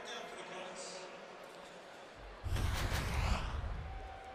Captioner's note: pa announcement